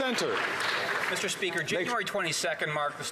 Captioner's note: applause